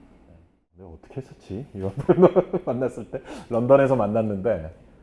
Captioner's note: laughing